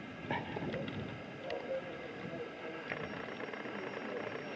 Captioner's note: tourists chattering